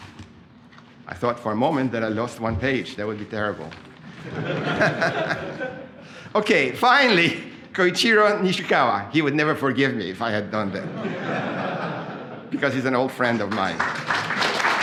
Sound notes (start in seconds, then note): 4.1 laughter; 10.8 laughter